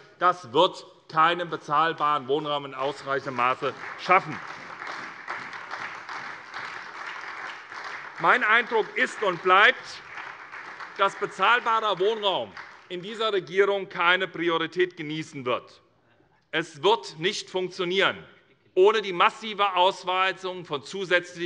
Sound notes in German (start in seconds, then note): 4.3 Beifall SPD